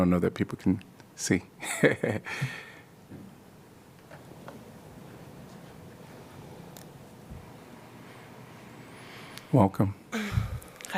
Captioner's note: laughter